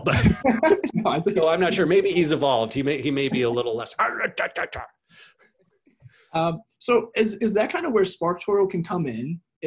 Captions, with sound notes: (both laugh) So I'm not sure maybe he's evolved. He may be a little less.(speaks gibberish) - Is that kinda where SparkToro can come in,